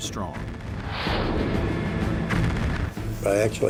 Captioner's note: explosions